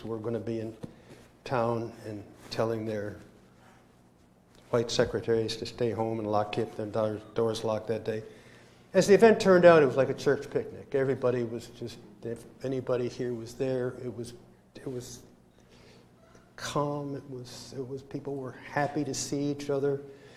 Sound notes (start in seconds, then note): none